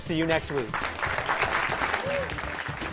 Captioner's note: applause